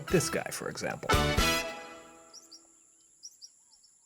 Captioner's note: chirping